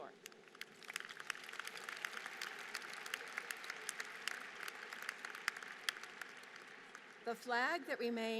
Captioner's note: applause